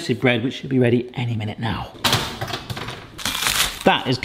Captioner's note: crunching